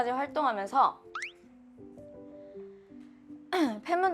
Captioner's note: silence